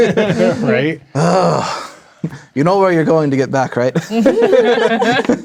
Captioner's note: laughing; groans; players laughing